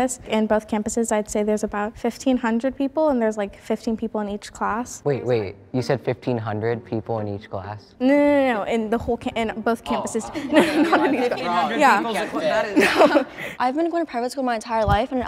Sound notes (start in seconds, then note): 10.3 all laughing together